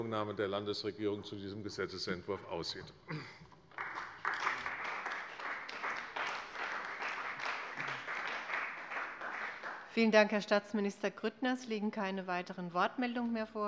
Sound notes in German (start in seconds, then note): 3.6 Beifall bei der CDU und dem BÜNDNIS 90/DIE GRÜNEN